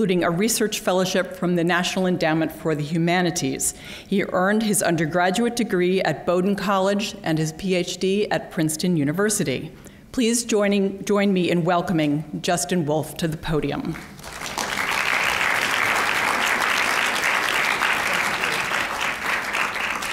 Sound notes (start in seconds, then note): 13.9 applause